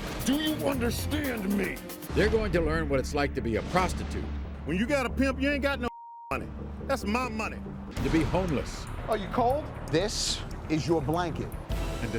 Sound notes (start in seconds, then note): 5.9 beep